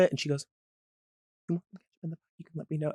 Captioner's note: whispers indistinctly